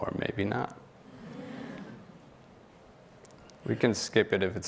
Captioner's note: audience laughing